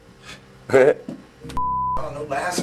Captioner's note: laughs